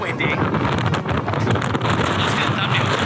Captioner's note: wind Gusts